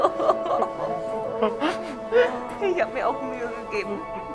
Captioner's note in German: Sie weinen und schluchzen